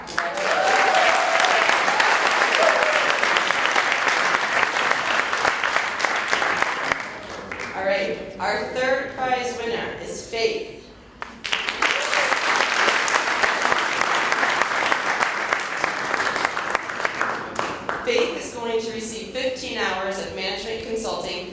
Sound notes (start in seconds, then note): 3.7 cheers and Applause; 16.2 applause